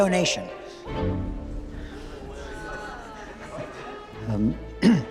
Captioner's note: crowd chattering